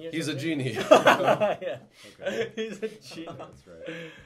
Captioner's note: laughing